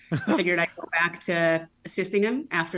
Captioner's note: laughs